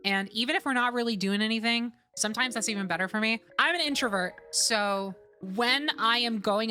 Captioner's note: none